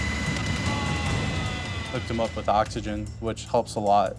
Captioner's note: patient groans